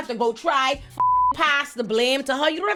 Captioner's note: beep